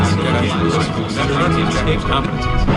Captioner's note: SFX: record scratch